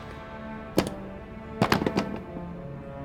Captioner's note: piece clatters